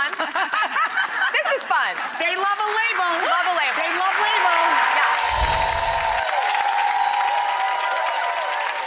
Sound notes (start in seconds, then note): 0.2 all laughing; 4.7 audience applauding